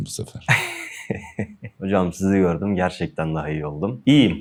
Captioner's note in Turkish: kahkaha